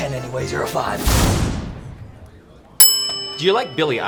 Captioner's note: exploding; bell dings